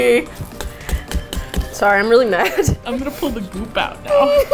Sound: aggressive stabbing; sobs; laughs

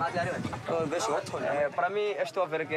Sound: Portuguese spoken audio

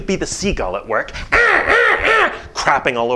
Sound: squawking

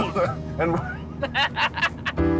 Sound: laughing

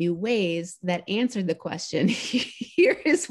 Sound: laughing

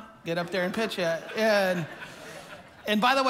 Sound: congregation laughing

